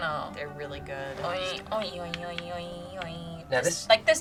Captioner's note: hums